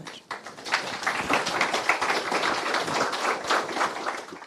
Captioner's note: audience clapping